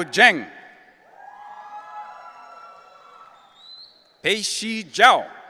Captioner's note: audience cheering